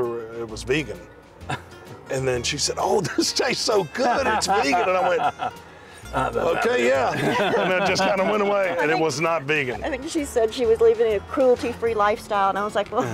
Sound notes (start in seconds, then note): 3.0 laughs; 6.1 laughter